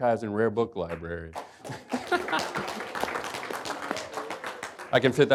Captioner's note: applause